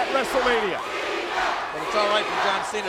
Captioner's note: crowd chanting